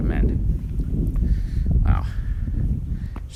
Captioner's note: wind howls